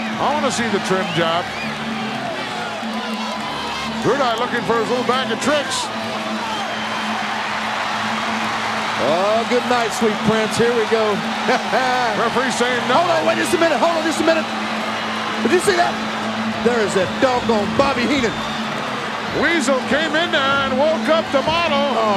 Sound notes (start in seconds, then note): 0.0 audience cheering; 6.8 audience cheering; 11.4 chuckling